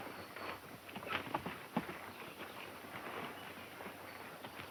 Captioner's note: horses galloping